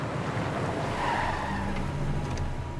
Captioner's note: tire squeal